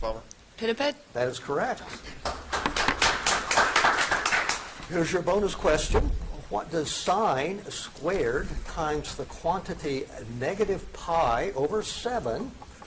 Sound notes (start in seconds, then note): 2.2 audience applauds